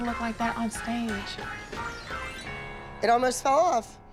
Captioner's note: whispering